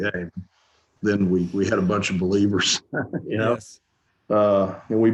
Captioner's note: chuckles